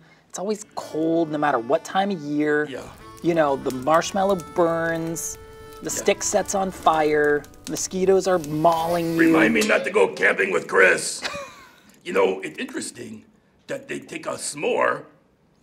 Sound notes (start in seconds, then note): 2.7 wistful music; 6.1 fire crackling